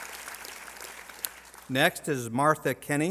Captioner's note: applause